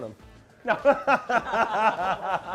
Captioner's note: laughing